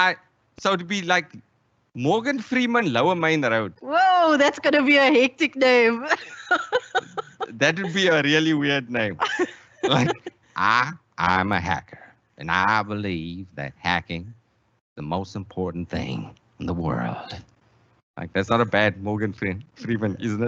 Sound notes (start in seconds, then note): 6.0 laughs; 9.3 Starts imitating Morgan's Freeman's voice